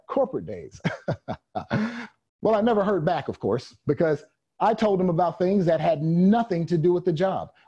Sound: chuckles

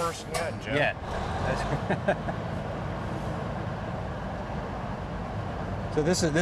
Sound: laughter

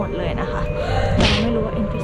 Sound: shouts

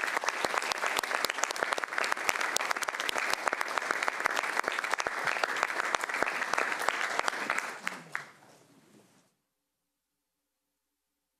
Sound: applause

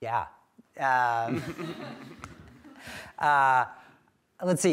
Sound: laughter

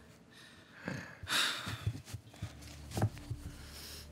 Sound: sighing

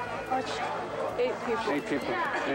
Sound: speaking in a foreign language

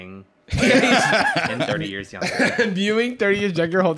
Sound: both laughing

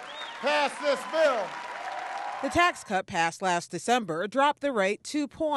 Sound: cheering and applause

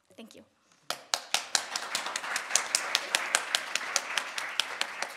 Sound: audience applauding

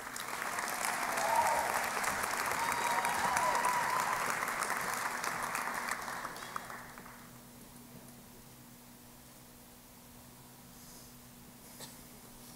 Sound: cheering and Applause

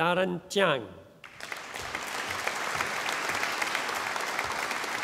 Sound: audience applauding

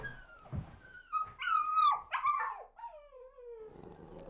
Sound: dog whimpers

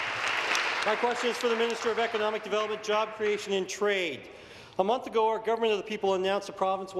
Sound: applause

